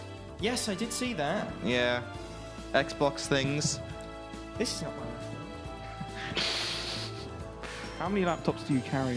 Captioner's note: laughing